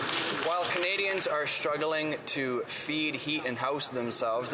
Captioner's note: some Applause